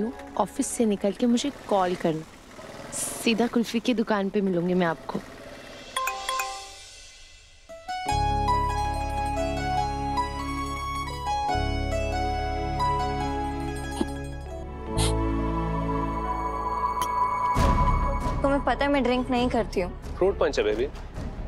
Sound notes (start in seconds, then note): 6.0 phone chimes; 7.8 romantic music playing